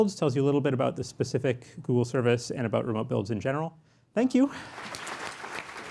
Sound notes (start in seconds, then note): 4.6 applause